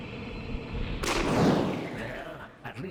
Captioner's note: cracking